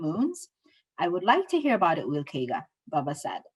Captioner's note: speaking Somali